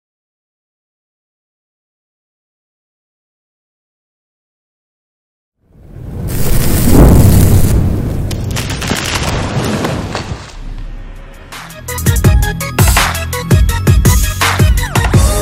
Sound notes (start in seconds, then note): 5.8 thunder crashing; 8.8 crackling; 10.9 upbeat introductory music